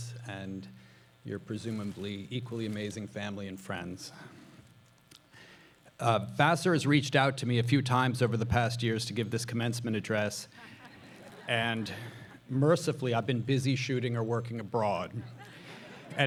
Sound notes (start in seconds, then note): 10.5 audience laughing